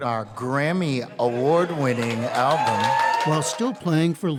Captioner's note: crowd cheers